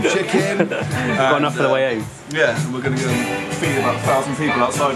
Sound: both laugh

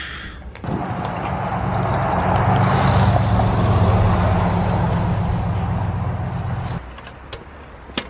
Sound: traffic noise and bird seed pouring

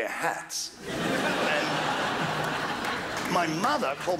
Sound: crowd laughs

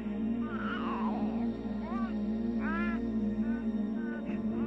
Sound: baby vocalizing

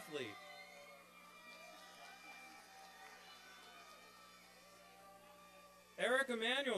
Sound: applause and cheering

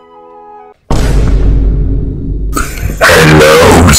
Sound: Vine boom sound effect

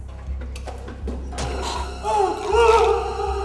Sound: gaging; yelling

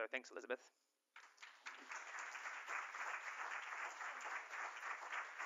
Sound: applause

